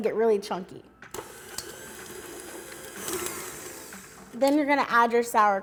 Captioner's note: machine whirring